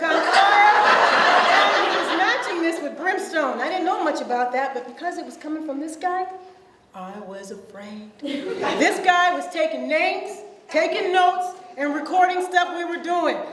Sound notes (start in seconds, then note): 0.0 audience laughs; 8.3 audience laughs